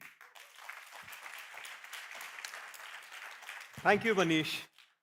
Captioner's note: applause